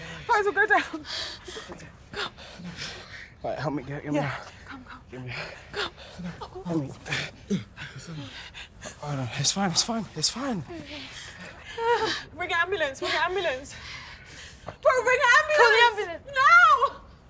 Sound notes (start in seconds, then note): 2.3 gasping; 6.9 sobbing